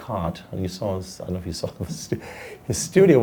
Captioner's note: laughs